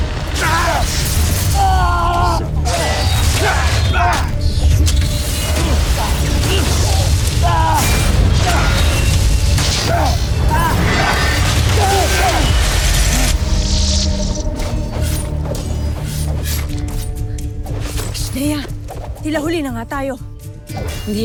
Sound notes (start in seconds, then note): 0.1 powerful blast-crackle; 1.5 growls; 4.0 growling & grunting; 4.7 clanging, swishing, crackling; 8.0 grunts; 8.0 powerful blast-crackle; 8.4 clanging, swishing, crackling; 9.8 growling, grunting, groaning; 13.5 eerie music playing; 14.6 weapons clanging & swishing; 17.0 tense music playing